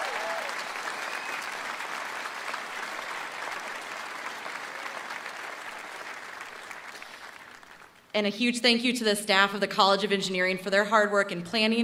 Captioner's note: applause